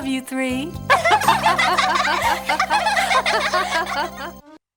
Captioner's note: laughing